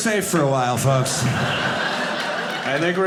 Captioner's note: audience laughing